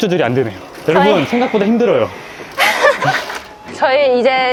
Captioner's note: laughter